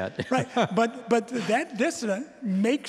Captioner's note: chuckling